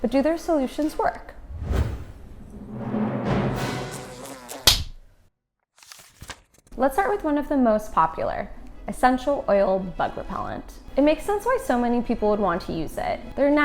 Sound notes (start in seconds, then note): 1.4 whoosh; 3.6 bug buzzes; 4.5 slaps